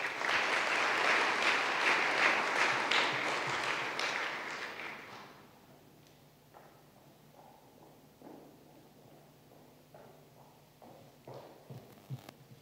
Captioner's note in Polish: oklaski